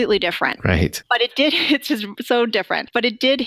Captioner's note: giggling